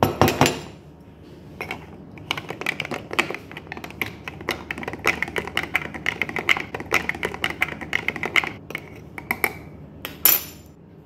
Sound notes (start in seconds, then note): 0.1 jar clunks; 1.8 spoon rattling